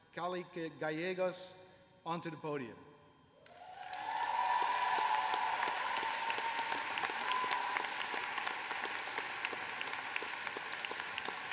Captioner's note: cheers and applause